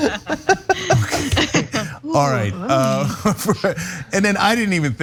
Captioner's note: laugh